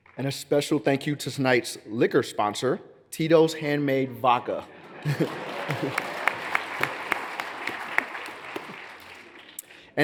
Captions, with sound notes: - And a special thank you to tonight's liquor sponsor, Tito's Handmade Vodka. (laughs) (audience laughs) (hands clapping) (audience applauds)